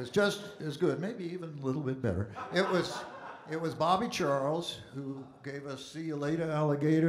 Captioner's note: audience Laughing